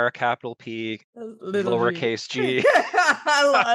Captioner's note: both laugh